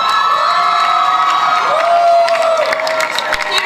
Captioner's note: audience cheers